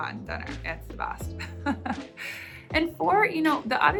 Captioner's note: chuckles